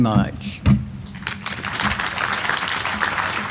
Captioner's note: applause